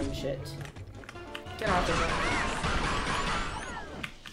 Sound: psi-blast ricocheting repeatedly

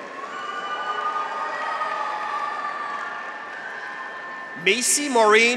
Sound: graduates cheer; audience applauds

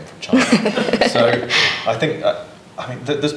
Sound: laughs

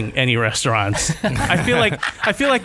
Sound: laughter

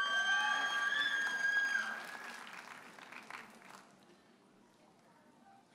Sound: audience hollers and applauds

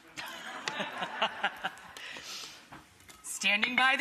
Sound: Rachel and audience laughing

